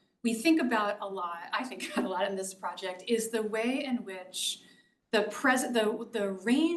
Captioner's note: laugh